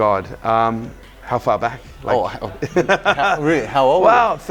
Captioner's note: laughs